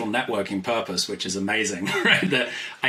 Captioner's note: laughs